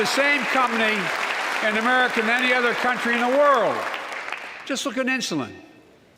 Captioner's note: applause